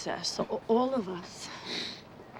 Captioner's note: sniffs